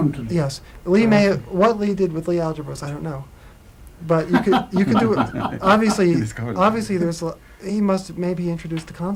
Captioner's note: laughter